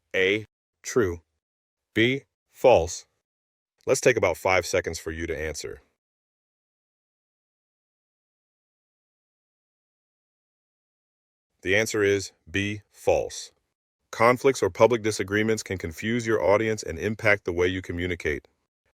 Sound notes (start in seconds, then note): 6.0 no audio